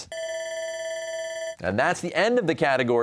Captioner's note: bell ringing